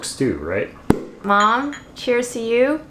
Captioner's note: cork pops